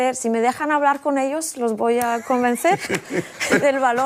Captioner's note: laughter